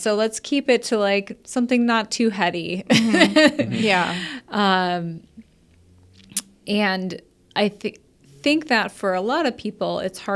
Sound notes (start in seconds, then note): 2.9 laughs